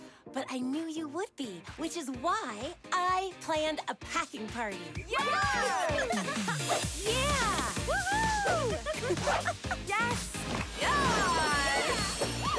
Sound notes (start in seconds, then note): 5.1 all cheer; 8.0 laughs